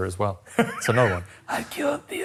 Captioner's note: laughing